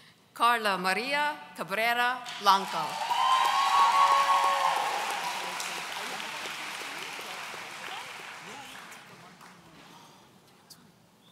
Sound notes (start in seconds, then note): 2.6 audience cheering